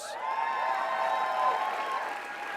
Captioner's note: crowd cheers